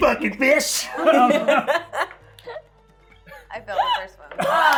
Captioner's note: laughing